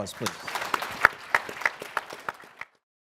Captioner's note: applause